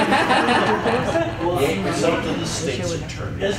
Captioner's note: chuckles